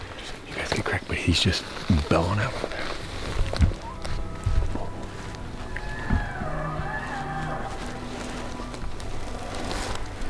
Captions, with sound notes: you get crackin... But he's just bellowing out over there. (Elk bugling) Bull! (Another bull growling)